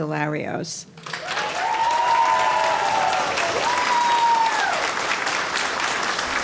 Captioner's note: audience cheering and applauding